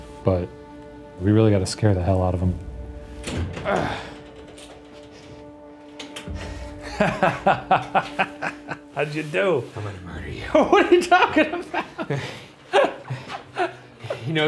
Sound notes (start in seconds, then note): 3.9 grunts; 6.7 laughing; 10.4 laughing